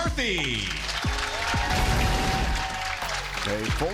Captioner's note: crowd clapping and cheering